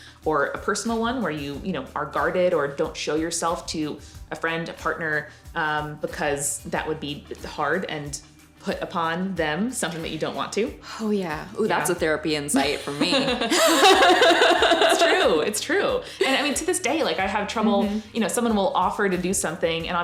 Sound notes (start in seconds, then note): 11.1 sighs; 12.6 both laughing